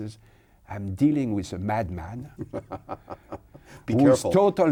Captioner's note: laughs